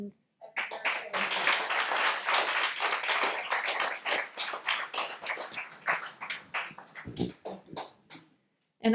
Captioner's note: audience clapping